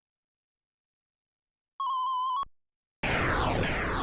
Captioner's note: arcade video game sounds